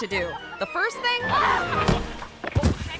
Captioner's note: woman screams; body thuds and thumps